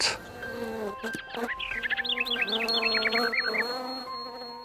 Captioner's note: birds chirping